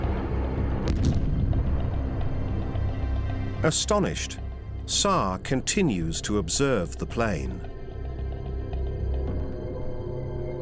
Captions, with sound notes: [explosion] Astonished, Saar continues to observe the plane.